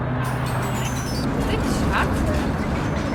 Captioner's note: distorted ringing tone